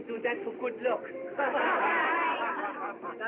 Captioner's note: laughing